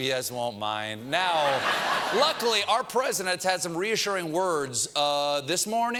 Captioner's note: laughter